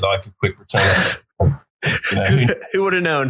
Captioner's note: laughing